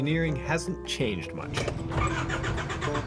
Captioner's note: engine turning over